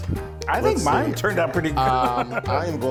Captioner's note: laughing